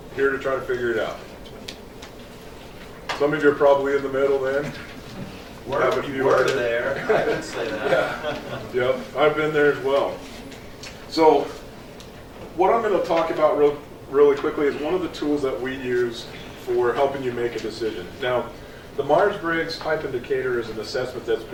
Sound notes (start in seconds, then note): 9.2 laughs